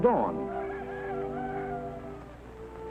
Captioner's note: rooster crowing